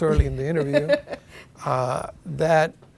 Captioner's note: laughing